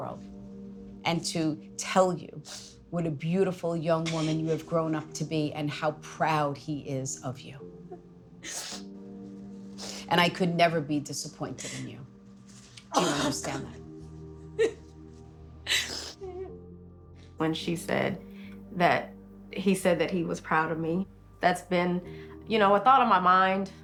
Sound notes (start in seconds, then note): 15.7 crying